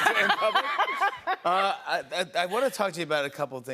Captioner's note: laughter